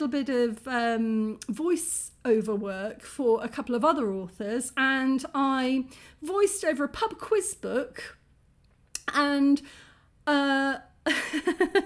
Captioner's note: chuckle